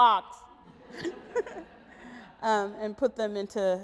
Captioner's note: audience laughs